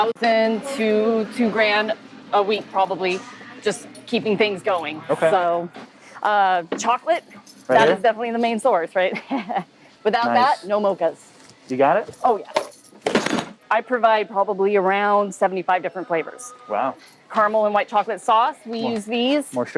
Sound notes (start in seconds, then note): 12.5 box rattling